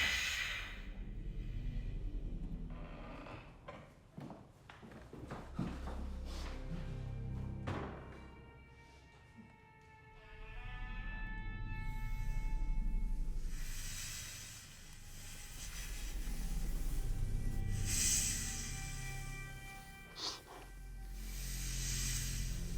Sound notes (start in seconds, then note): 0.1 dramatic music; 17.5 snake hissing; 20.5 dramatic music